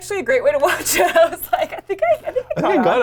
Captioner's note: laughs